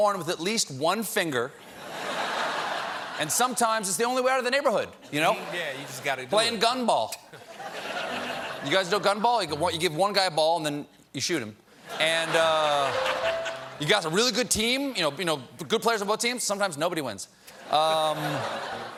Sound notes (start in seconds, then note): 7.2 laughter; 11.8 laughter